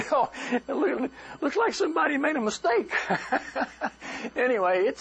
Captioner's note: laughter